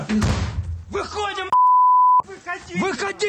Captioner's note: conversations in another language; beeping